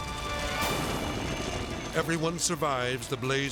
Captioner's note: helicopter buzzing; edgy dramatic music